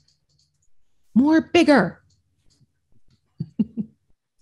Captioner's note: laughs